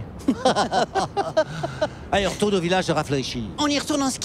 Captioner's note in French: rires